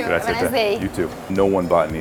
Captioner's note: speaking in foreign language